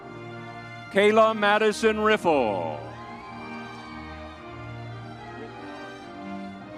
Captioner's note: crowd cheering